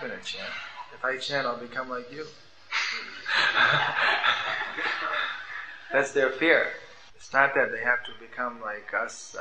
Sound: laughter

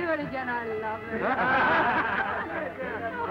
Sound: laughter

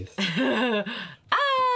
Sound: laughing

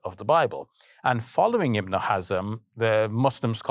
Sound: speaking foreign language

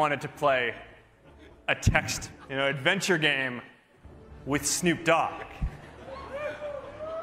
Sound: laughter

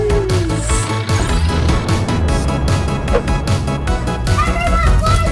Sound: alarm sound effect; rocket launch sound effect

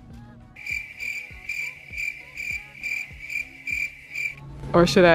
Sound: crickets chirping

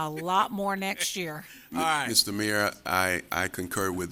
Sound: laughter

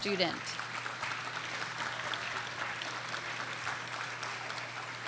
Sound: audience applauding

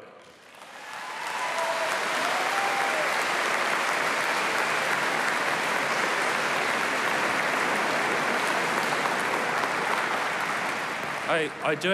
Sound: applause

